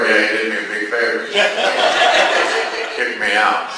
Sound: class laughs

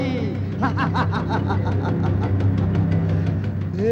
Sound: laughs

